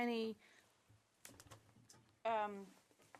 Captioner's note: speaking French